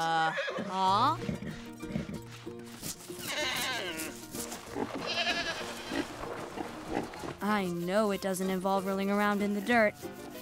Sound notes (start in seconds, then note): 0.1 whinny; 2.9 bleating